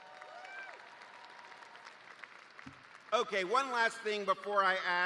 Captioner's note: cheers and applause